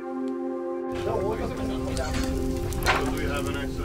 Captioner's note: chatter